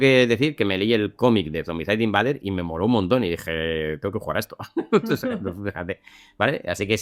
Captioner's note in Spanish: risas